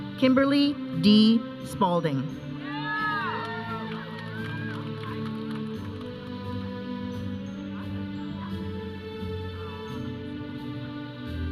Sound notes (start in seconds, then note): 2.7 audience cheering; 6.4 processional music; 7.5 audience chattering